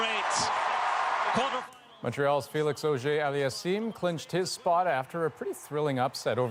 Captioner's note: cheers and Applause